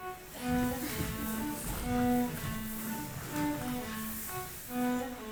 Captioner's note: footsteps stomping